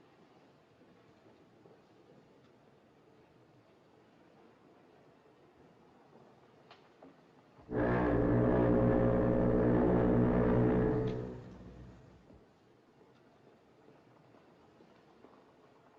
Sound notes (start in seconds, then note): 7.6 foghorn Blows